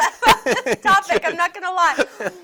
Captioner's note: both laugh